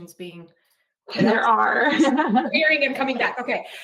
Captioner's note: laughs